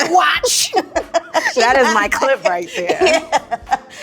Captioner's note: laughing